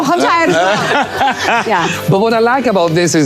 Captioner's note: Colman laughing